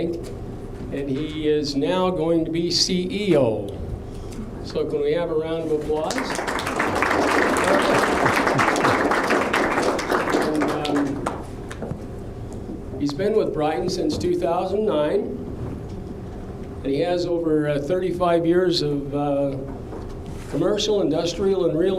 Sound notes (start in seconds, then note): 7.7 applause